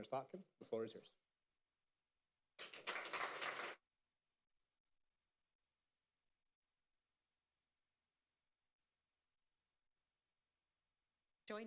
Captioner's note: applause